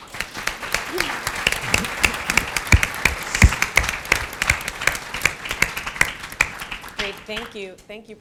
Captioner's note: applause